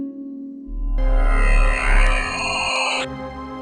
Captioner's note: sq6 teleport sound